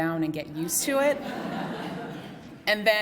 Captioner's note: laughter